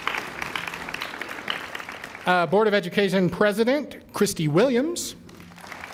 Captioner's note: applause